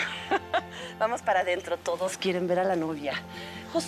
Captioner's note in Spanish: risas